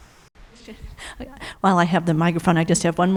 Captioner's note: laughs